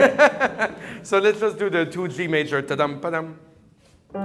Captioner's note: laughs; humming